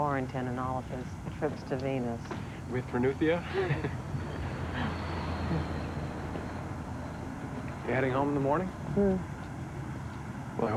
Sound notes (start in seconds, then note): 3.4 both chuckle